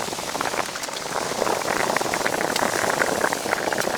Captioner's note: bubbling... bubbling